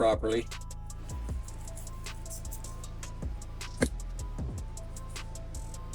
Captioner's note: crackling